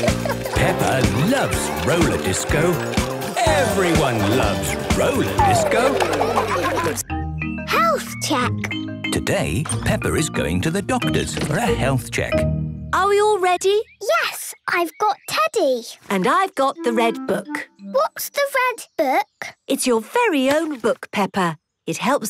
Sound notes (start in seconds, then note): 5.1 laughter